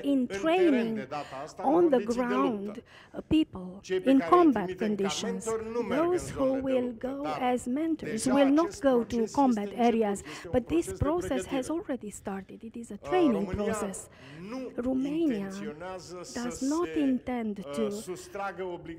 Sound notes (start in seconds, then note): 4.4 speaking in romanian